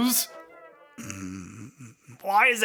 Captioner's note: Phasma snorts